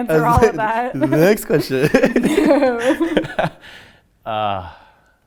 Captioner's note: laughs